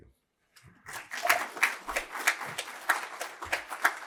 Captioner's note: applause